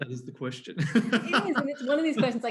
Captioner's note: laughs